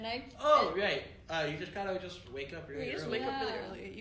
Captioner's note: none